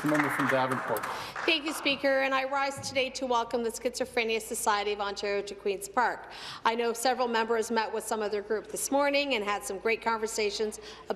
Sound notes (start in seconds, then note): 0.0 some applause